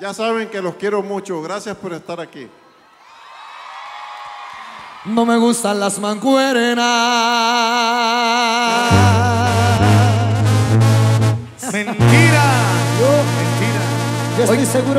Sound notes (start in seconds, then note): 3.8 applause; 11.6 laugh